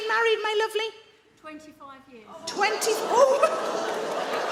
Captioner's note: audience gasp